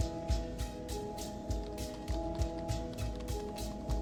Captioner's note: keyboard clicks